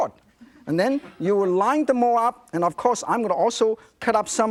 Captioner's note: audience giggling